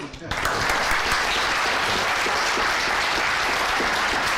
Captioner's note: applause